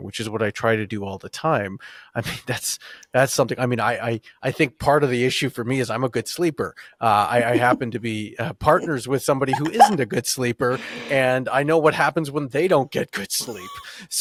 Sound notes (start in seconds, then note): 9.5 laughs